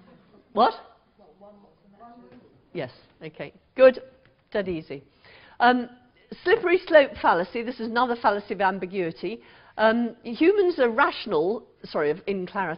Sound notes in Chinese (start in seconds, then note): 1.8 無聲